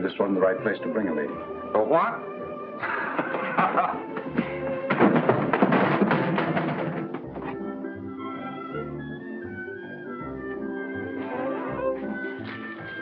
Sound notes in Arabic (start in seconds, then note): 2.8 سيمونز يضحك; 4.3 ضربات القبضة